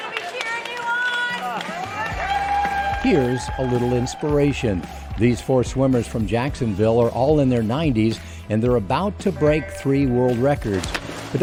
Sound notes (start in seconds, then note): 0.0 audience cheering